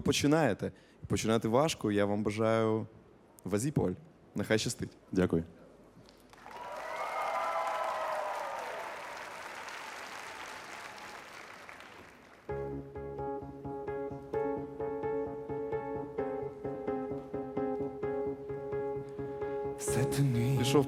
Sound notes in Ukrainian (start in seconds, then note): 6.1 оплески